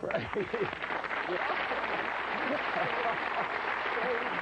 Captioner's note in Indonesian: Tepuk tangan